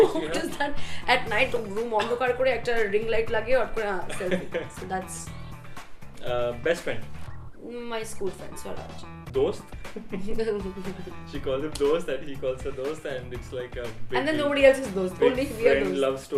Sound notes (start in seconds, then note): 4.0 laughing; 9.8 laughing